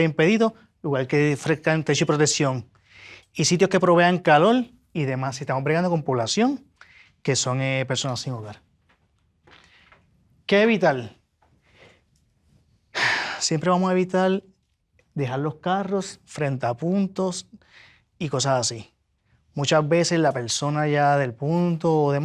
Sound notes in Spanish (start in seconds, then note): 12.9 suspiro